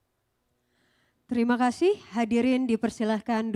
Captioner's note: speaking indonesian